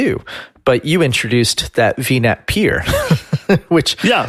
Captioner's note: laughs